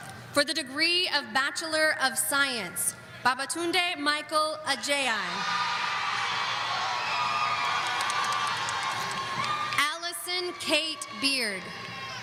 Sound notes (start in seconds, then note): 5.3 audience cheering